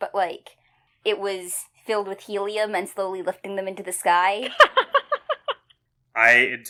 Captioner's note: laughs